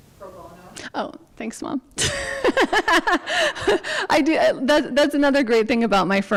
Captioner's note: laughs